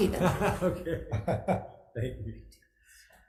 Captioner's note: laughs